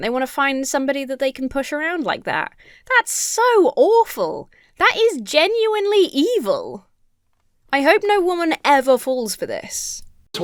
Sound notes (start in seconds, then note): none